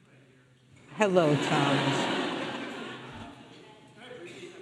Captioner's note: audience laughing